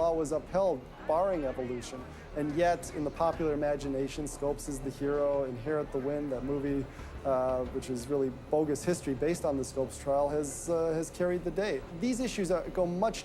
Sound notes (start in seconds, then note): none